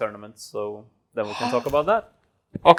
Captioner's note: gasps